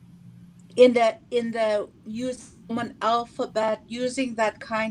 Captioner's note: speaking Indigenous language